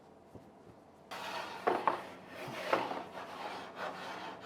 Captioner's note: scraper entering the oven